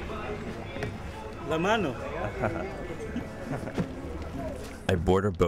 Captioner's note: speaking foreign language